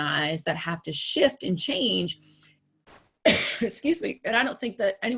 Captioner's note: coughs